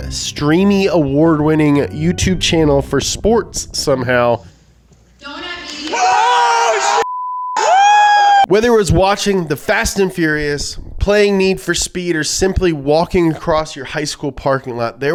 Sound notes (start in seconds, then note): 5.7 cheering